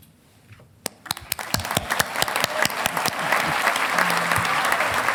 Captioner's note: audience applauding